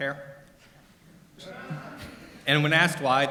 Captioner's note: audience laughter